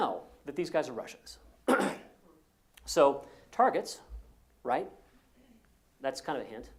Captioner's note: cough